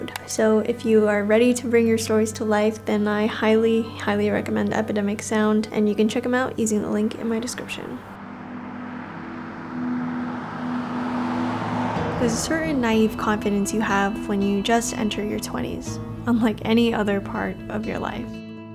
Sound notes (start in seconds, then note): 8.1 car passing